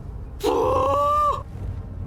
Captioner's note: screams